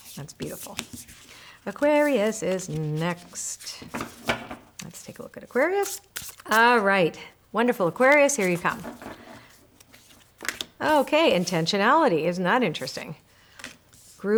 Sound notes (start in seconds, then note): 3.8 cards knock